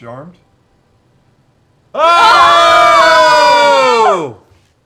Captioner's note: cheering